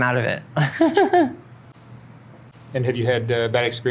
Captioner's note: laughs